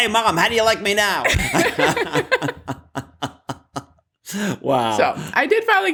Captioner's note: laughter